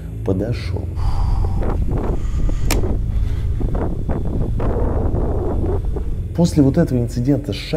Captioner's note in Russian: Шум в микрофоне от ветра